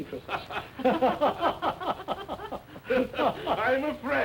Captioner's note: laughter